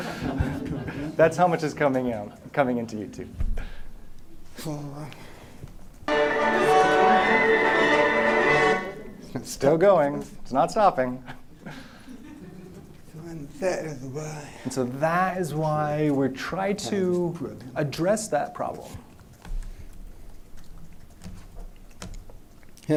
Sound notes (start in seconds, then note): 6.0 dramatic music; 11.2 laughter